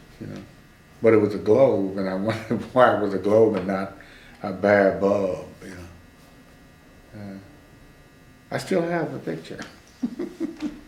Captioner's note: laughs